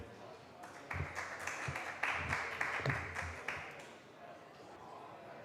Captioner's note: applause